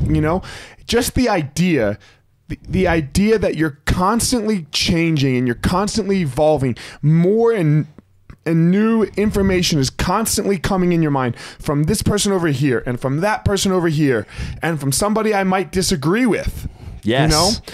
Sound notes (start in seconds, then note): none